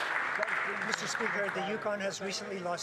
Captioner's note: applause